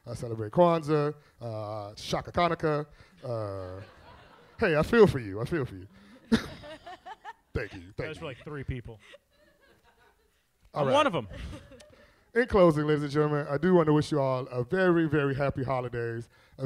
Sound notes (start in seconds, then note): 3.3 audience laughs; 5.7 all laughing